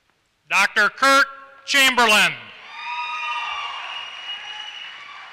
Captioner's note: applause